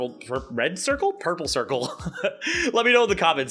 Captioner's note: laughs at own incompetence